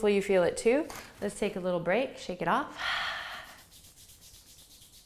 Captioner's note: exhales